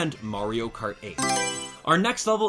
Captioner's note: Mario Selection Sound